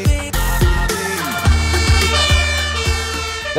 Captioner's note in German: Sirene